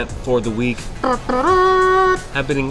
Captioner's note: mouth trumpeting